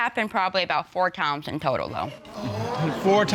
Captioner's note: audience exclaims